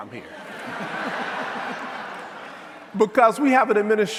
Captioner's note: audience laughing